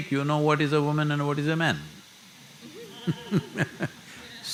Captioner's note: laughter